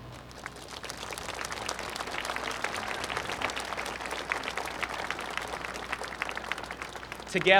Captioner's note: applause